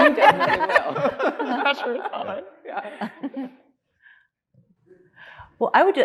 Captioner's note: panelists laughing